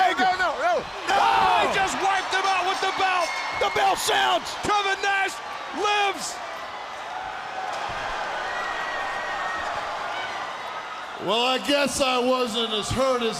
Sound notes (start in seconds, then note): 3.6 bell ringing; 7.8 crowd cheering